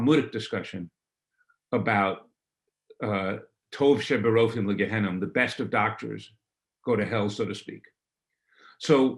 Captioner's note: hebrew